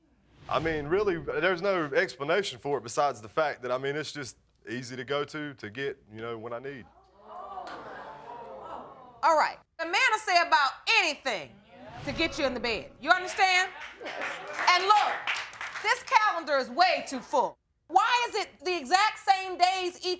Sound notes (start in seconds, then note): 7.2 audience groans